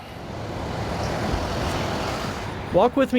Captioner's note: tires humming